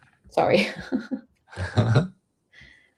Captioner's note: laughter